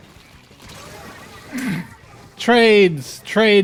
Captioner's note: snort